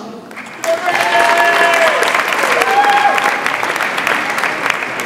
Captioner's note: audience applauds and cheers